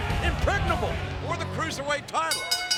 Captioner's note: bell ringing